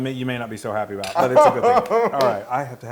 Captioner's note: laugh